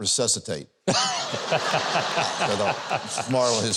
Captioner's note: Huckabee and audience laugh